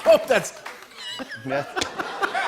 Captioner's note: laughter